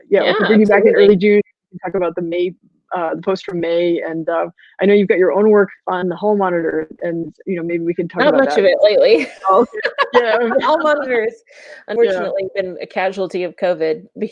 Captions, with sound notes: - Yeah, absolutely. - We can bring you back in early June, and you can talk about the posts from May. I know you've got your own work on Hall Monitor. Maybe we can talk about that. - Not much of it lately (laughing). Hall Monitor has unfortunately been a casualty of COVID.